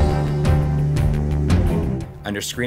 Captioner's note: game audio